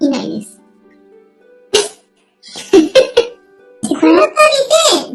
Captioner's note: laughs